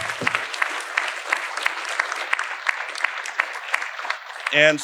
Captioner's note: audience applauding